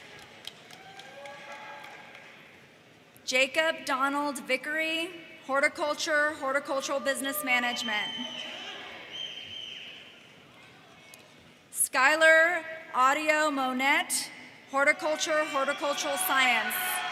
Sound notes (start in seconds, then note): 9.0 audience member whistles